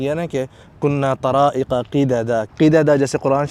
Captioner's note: Arabic